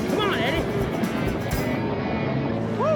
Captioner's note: cattle stampeding